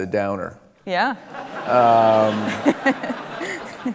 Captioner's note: laughing